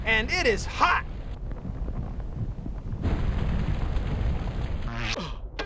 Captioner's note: rumbling